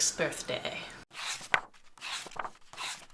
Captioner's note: pages turning